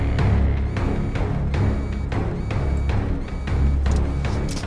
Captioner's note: dramatic music; alarm buzzing; suspenseful music